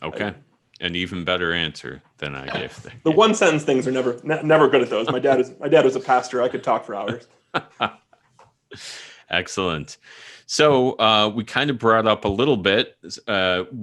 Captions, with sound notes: - Okay, an even better answer than I'd give. - The one sentence things am never good at those. My dad is a pastor, I could talk for hours. - (laughing) Excellent, so we kinda brought up a little bit